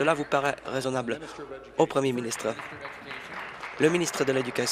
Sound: applause

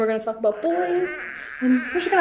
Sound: baby gurgling

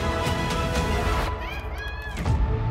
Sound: dramatic music; girl's voice, calling out

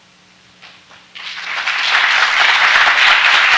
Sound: applause

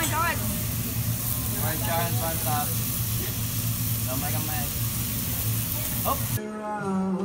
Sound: hibachi noises

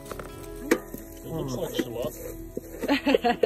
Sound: laughter

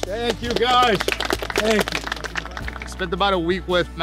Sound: group applauds

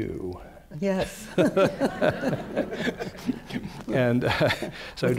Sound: laughter

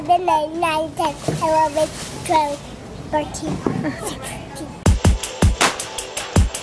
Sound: mom laughing; upbeat pop music

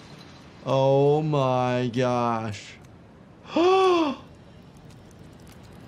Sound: gasps

